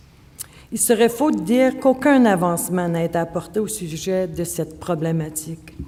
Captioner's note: speaking French